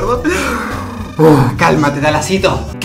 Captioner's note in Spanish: risa; suspiro